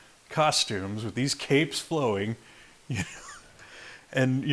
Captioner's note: chuckles